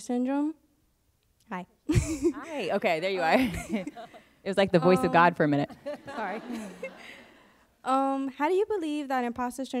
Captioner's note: laughs; laughter